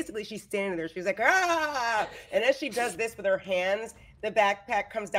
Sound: shouts

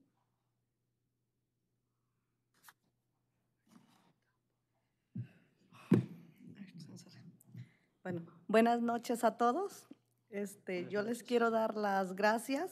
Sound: speaking spanish

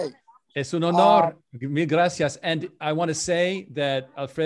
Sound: foreign language

